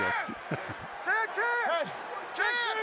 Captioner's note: laughs